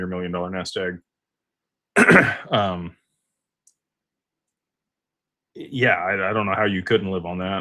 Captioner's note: clears throat